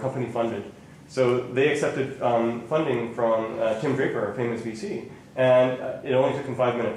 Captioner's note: none